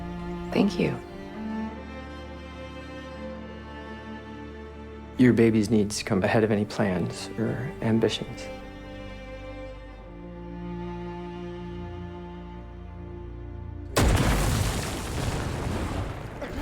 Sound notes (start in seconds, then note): 13.9 explosion